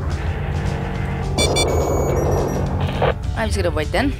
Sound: defense shooting something sound cue

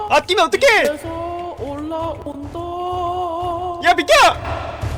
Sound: humming

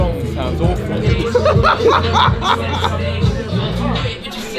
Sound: laughs

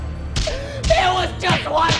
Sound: Santa snarls; hitting

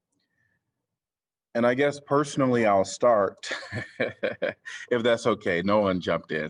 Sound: laughter

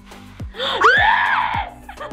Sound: screams

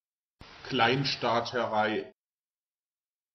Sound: fast Pronunciation

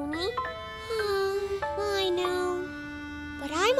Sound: sighs

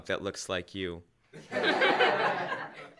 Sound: laughter

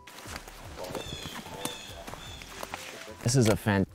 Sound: blue jay calling

